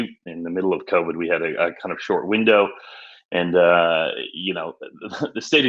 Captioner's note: chuckles